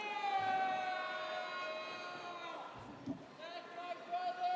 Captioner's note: audience cheers